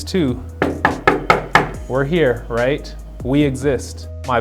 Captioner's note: knocks on desk